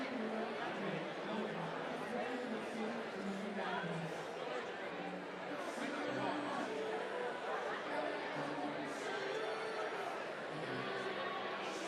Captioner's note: crowd din